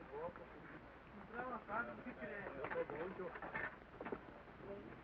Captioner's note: indistinct conversation